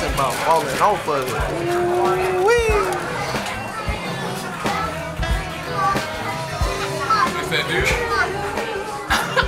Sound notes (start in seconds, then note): 3.6 chattering